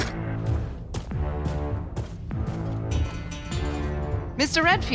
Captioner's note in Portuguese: som de passos